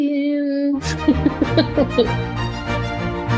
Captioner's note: laughing; upbeat music